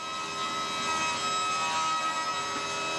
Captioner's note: bright sawing noise